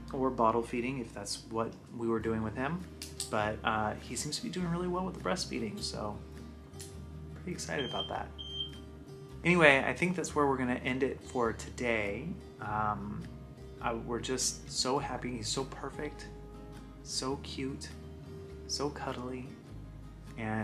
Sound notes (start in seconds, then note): 7.8 beeping